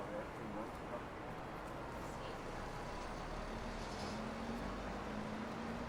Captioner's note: chattering in foreign language